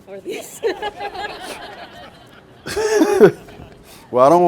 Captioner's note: all laughing